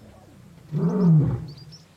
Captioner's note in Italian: ruggito